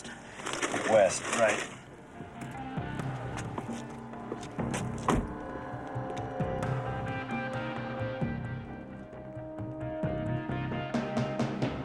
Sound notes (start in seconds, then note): 4.4 car door slams; 4.9 soft music